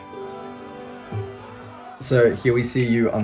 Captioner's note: crowd chanting